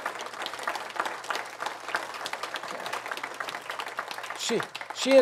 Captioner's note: audience applauds